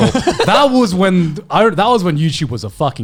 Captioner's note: laughing